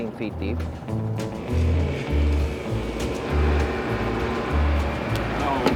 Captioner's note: boat engine roaring